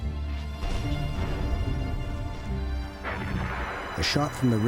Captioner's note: explosion booming